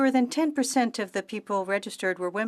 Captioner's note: speaking French